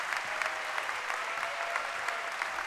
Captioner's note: cheering and applause